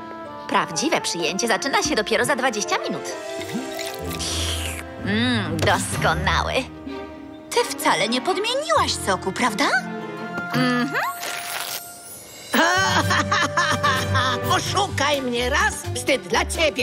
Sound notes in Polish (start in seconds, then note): 12.4 śmieje się